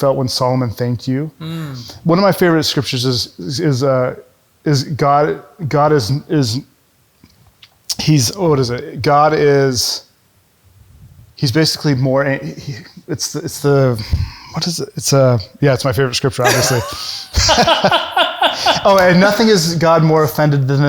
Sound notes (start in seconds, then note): 16.4 chuckles